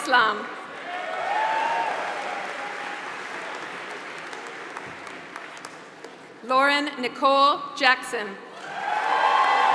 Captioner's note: applause; applause